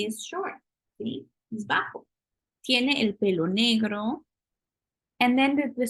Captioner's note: spanish